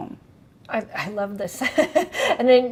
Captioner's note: chuckles